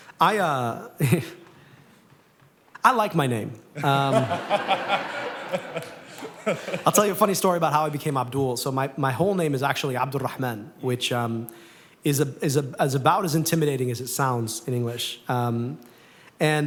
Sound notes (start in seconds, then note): 3.8 laughter